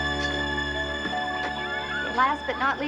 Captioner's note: children playing